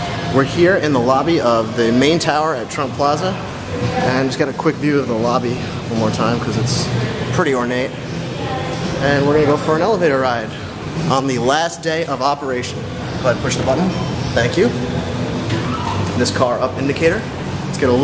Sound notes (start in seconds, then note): 14.4 bell chime